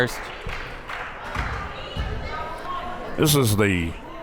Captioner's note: crowd members talking